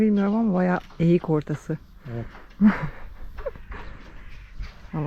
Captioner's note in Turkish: kahkaha